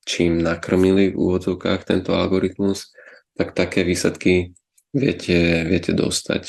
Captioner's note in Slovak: odkašľanie